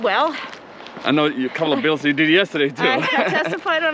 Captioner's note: laughs